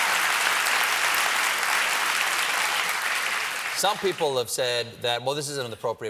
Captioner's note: cheers and applause